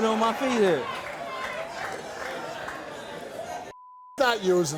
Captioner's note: audience murmurs